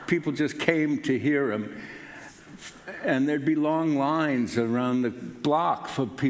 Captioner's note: none